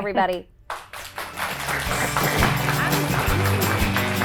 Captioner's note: audience applauds; upbeat music